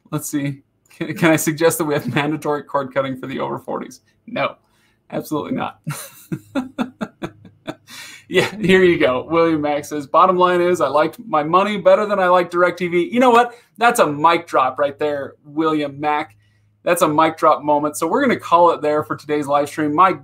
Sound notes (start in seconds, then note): 5.8 laughing